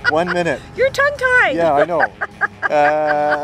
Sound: laughing

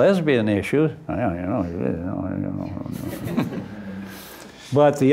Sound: mumbles maliciously

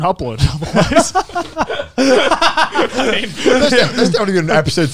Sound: laughing

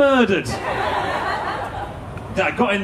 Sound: audience laughing

